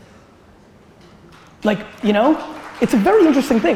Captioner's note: audience applause